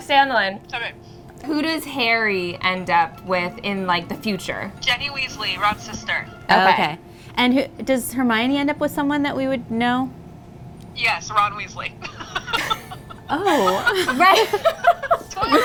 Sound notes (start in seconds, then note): 12.0 laughs